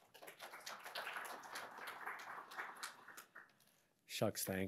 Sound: audience appludiing

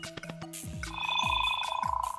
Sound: device beeps

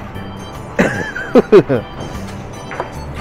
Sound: laughs

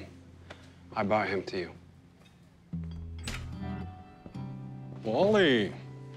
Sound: door opens

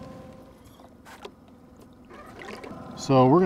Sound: reel spinning; plop in water; boat engine idling

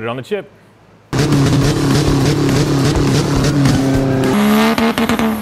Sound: engine banging

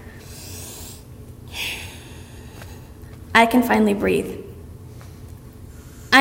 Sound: deep breath

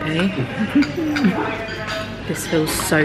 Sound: chuckles

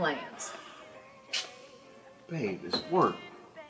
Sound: scoffs

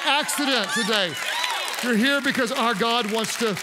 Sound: congregants cheer

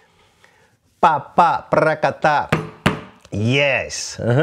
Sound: vocalizes rhythm

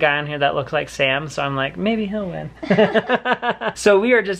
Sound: laughs

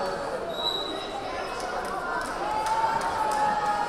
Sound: whistle blaring

